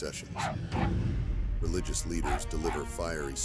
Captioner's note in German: Hund bellt